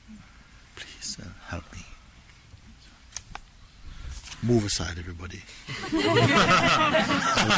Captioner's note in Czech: smích